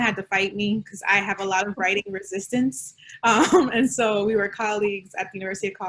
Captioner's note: laughter